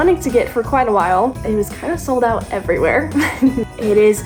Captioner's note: laughs